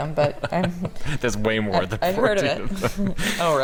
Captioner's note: laughs